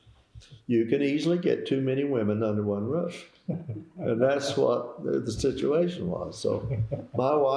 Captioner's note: laughter